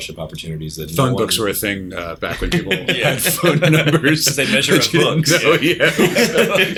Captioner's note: laughter